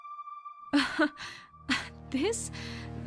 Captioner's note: OLIVIA scoffs